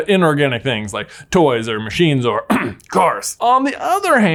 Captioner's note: clears throat